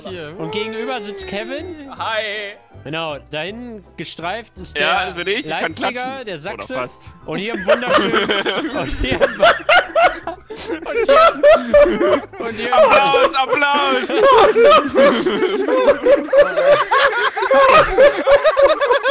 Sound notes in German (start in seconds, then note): 6.2 hahahaha